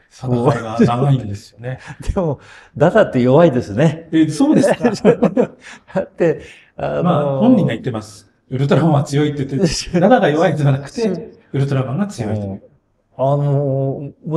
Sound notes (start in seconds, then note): 4.4 laughs